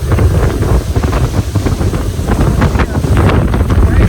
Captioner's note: wind roaring